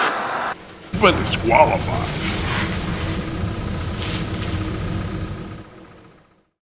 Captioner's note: TV Static